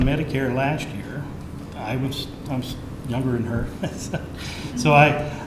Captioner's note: laughs